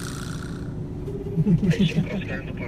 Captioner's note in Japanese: 電話のコール音